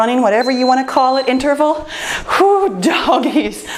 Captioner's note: timer beeps